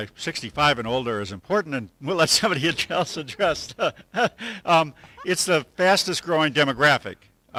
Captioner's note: laugh